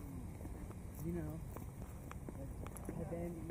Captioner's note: sounds of walking down city street